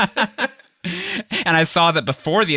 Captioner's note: laughter